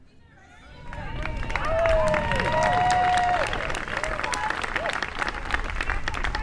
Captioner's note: applause